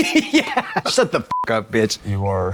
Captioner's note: beep